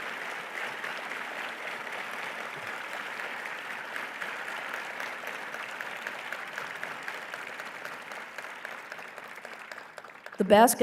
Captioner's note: applause